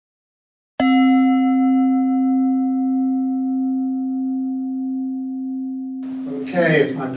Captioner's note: bell chiming